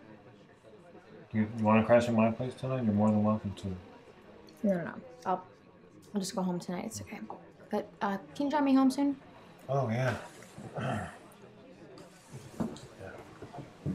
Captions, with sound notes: You want to crash at my place tonight? You're more than welcome to. No, no, no, I'll just go home tonight. It's OK. But, uh, can you drive me home soon? Oh, yea. [clears throat] Yea.